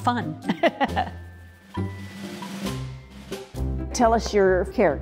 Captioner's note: laughs